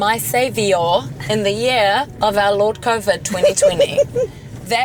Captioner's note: laughter